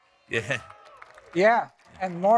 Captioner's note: audience members cheer